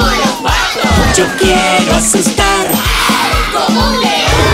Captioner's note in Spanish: Sonido de leon